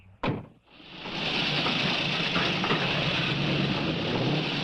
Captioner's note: engines revving